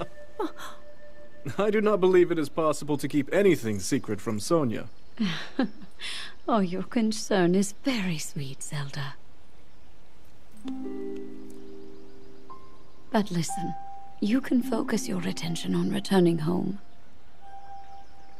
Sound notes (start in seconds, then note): 0.2 chuckles